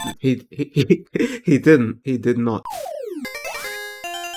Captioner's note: chuckling